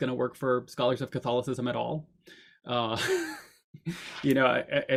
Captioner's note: chuckles